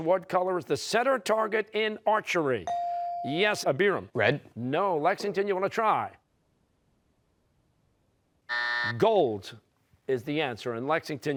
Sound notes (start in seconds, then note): 8.5 buzzer